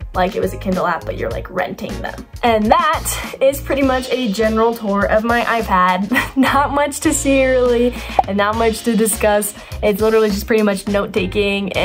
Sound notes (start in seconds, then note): 8.1 arrow pops